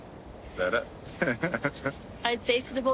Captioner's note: chuckles